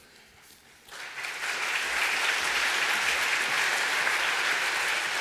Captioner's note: applause